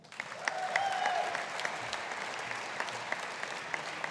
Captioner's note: audience applauding